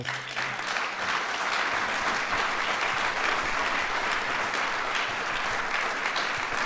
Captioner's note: applause